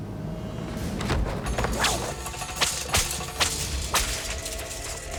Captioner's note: whisking